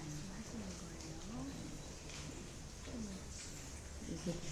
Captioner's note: whispering